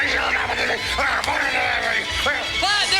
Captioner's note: muttering